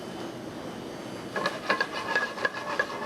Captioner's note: pan stirs